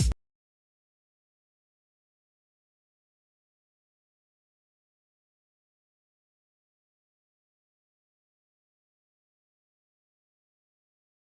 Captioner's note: silence